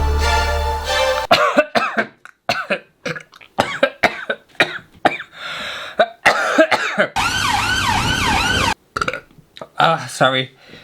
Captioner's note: tense Music; burping; coughing